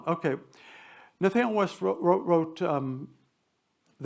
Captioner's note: none